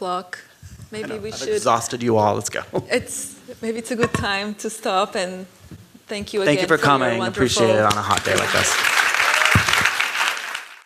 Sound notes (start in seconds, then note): 0.7 laugh; 9.3 applause